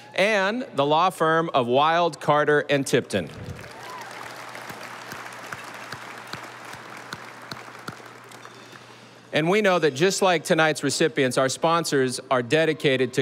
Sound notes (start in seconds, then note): 3.3 audience applauding